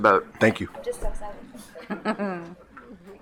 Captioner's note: laughter